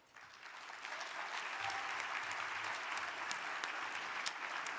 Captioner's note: audience applauding